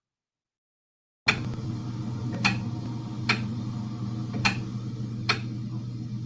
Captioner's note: ticking